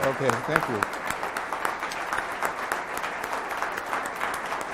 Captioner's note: crowd applauds